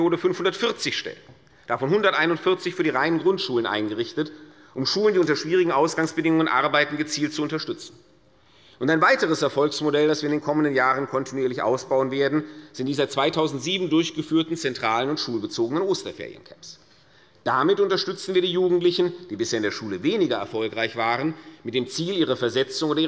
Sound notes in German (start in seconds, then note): none